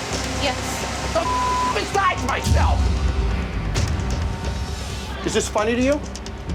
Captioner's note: beep